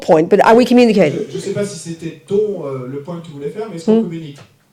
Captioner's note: speaking in French